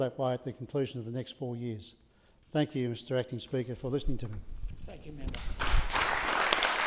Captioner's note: applause